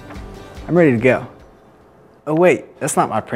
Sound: music stops

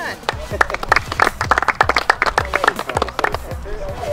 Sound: applause

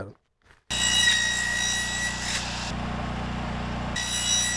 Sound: saw screaming

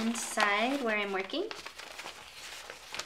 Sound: paper rustling

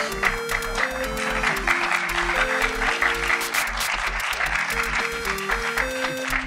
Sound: audience applauding; electronic music

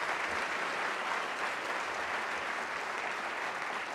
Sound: applause

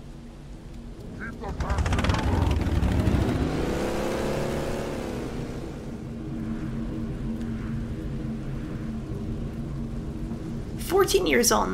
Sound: engine Noises

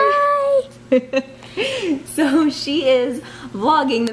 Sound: laughs

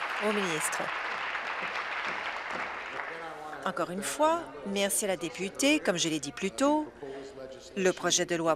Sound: applause

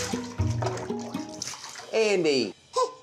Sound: splash

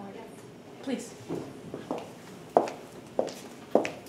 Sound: footsteps

